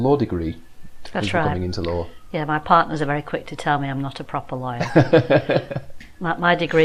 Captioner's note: laughing